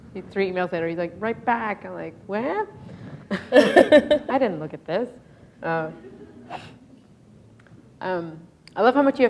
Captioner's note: chuckle